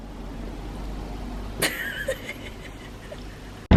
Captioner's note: laughs again